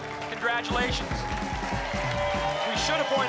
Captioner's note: applause and cheering